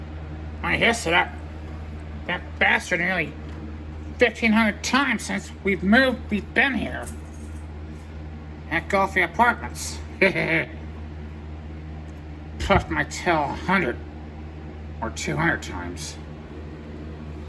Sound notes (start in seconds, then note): 10.2 Caprice laughs and giggles